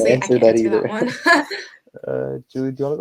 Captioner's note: everyone laughing